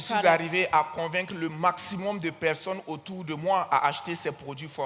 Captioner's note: continues in French